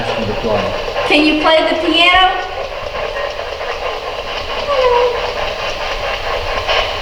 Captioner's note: wooing